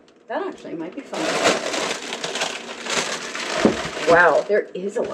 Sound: paper crumpling

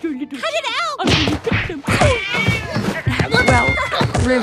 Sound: punching, struggling noises

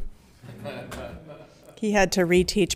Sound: laughing

